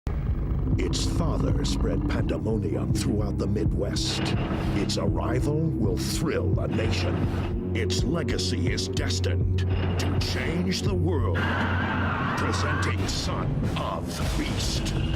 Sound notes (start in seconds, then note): 11.3 screams